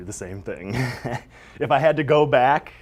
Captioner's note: laugh